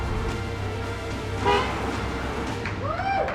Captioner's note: cars beeping